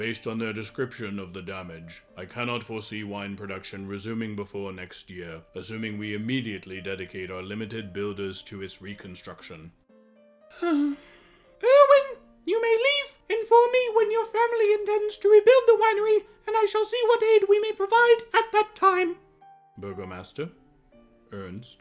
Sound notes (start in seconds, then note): 10.5 sighs